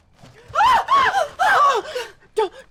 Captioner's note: screaming